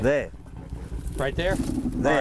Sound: elephant groans

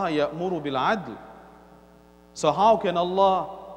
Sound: Arabic

